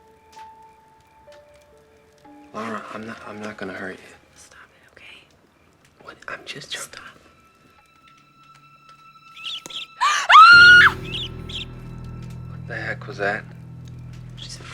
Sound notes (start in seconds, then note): 9.3 mouse squeaking; 9.4 screaming